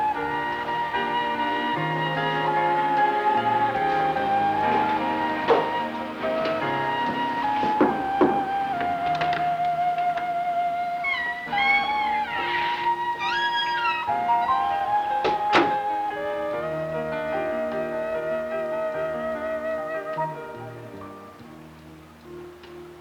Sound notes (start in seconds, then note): 6.2 knocking; 9.3 door opens; 11.0 door squeaks; 15.2 door closes